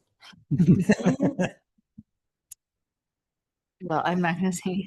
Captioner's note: laughter